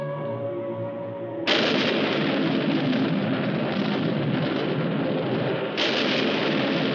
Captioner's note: thunder